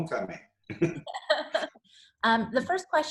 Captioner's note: laughs